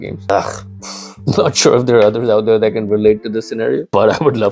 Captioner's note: pffft